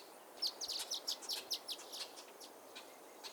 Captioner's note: bird chirps